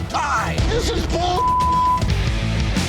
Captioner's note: beep; heavy rock music